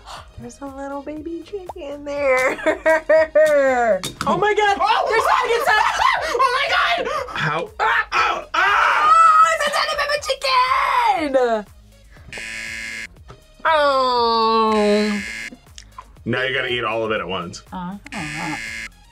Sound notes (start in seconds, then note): 2.2 laughs; 4.8 screams; 12.1 buzzer